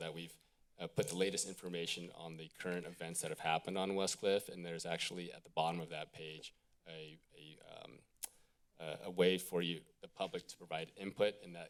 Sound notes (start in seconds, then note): 7.8 clicks tongue